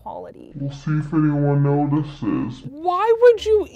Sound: with Autotune Deep Voice

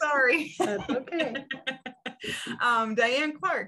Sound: laughs

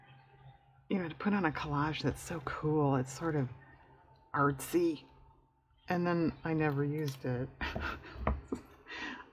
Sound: laughs

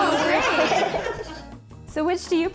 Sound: all laughing

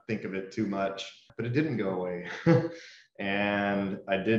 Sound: laughs

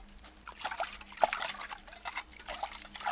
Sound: scratching dishes; water splashes

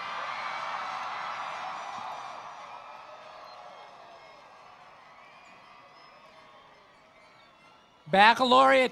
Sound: cheering and Applause

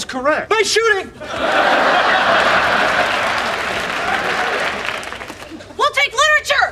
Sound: audience laughing; audience applauds

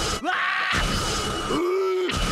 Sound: screaming

